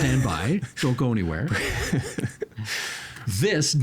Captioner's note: chuckling